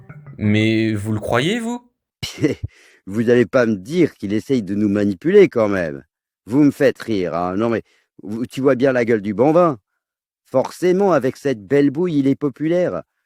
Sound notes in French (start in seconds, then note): 1.9 ricanement